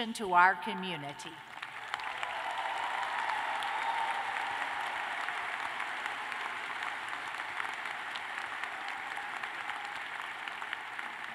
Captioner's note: applause